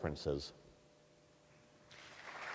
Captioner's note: applause